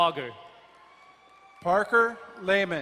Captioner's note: crowd cheering and applauding